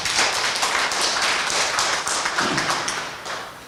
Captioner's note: applause